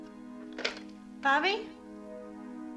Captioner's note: phone Ringing